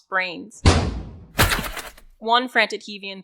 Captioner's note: metal breaking a skull